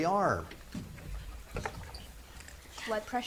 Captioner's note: students whisper